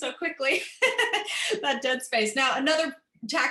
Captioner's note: laughter